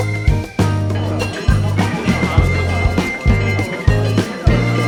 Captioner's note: bells ringing